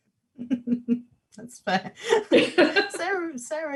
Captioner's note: laughs